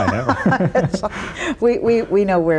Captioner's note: both laughing